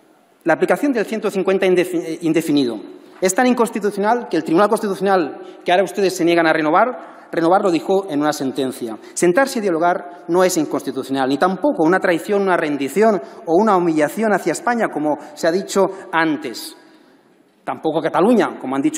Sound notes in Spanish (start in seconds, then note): none